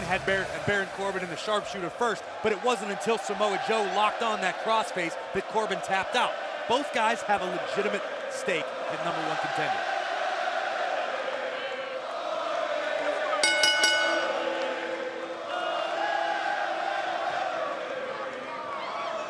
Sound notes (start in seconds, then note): 11.2 fans chanting; 13.4 bell